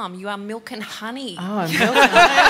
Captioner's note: laughter